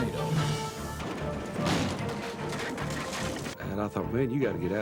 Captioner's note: debris clatters